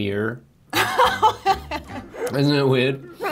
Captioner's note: laughs